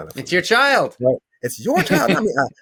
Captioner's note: chuckles